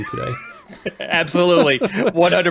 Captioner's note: laugh